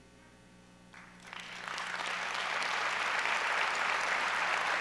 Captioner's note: audience applauds